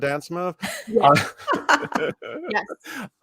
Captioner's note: everyone laughs